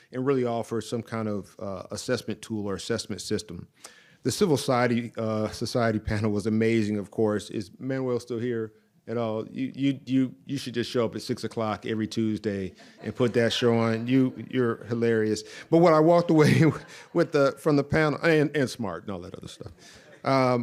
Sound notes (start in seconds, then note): 12.6 audience laughs